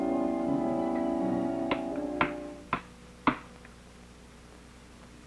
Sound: board tapping

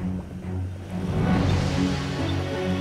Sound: equipment beeping

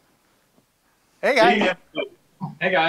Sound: audio distorting

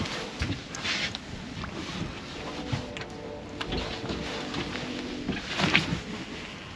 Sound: train horns in distance; rod whipping

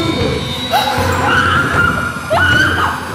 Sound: gasps, screams

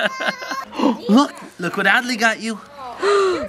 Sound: laughs; gasps

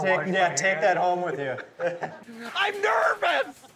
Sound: chuckles

